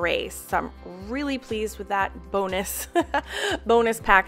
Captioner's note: chuckles